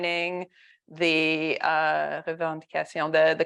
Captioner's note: speaks French